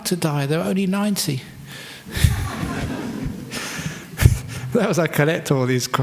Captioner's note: laughter